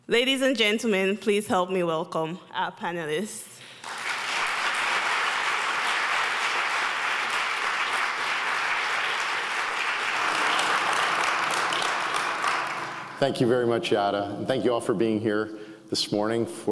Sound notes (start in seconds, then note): 3.9 audience claps